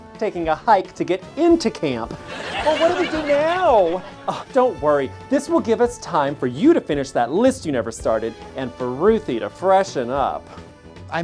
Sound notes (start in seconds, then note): 2.2 scoffs